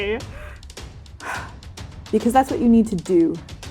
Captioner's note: exhaling